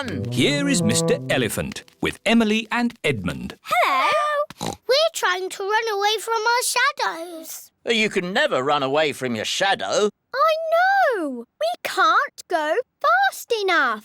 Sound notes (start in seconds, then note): 4.6 oinks